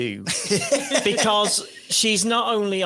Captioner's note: laughs